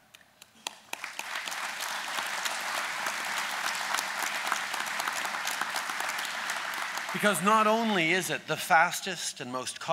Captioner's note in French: Applaudissements